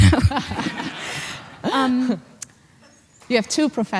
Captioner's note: laughs